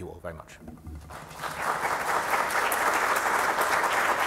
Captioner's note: applause